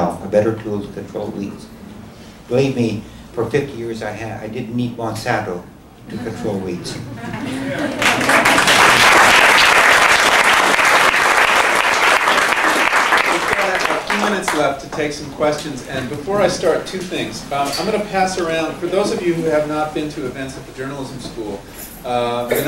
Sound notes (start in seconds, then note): 7.6 applause